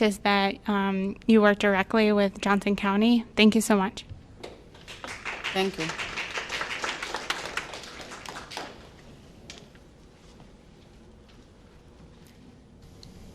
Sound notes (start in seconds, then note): 4.7 applause